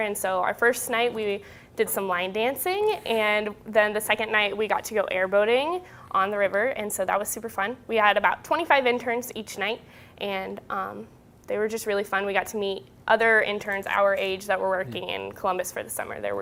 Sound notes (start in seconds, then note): none